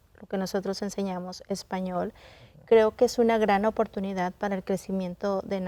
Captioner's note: continues speaking in Spanish